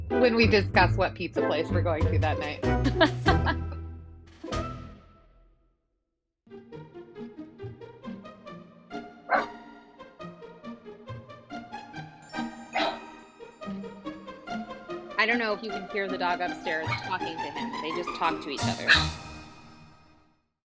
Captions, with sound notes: When we discuss what pizza place we're going to that night. [dog barks] [dog barks] I don't know if you can hear the dog upstairs talking to him. They just talk to each other.